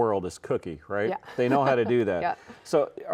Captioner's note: laughs